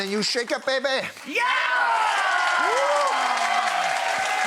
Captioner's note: audience cheering